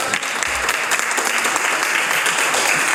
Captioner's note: applause